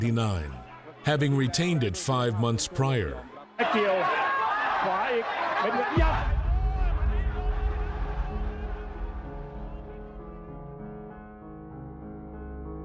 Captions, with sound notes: having retained it five months prior. (announcer speaking in foreign language) (soft piano music)